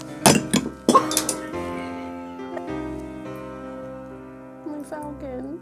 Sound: laughs

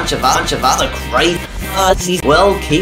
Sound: reversed speaking

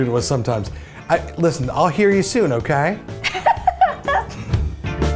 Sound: laughs

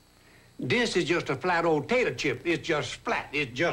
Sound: Justin Wilson, the Cookin' Cajun -- uses exaggerated Louisiana Cajun accent

